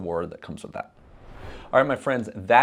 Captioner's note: air whooshing